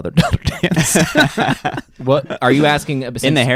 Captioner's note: laughing